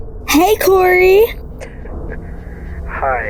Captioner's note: chuckles